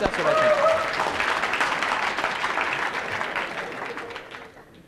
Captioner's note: applause